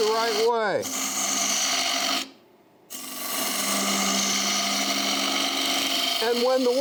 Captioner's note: wood rasping